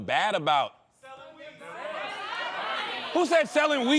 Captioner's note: audience shouting